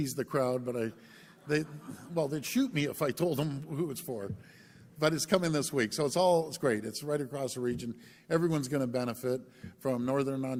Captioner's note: laughter